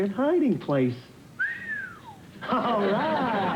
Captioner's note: whistle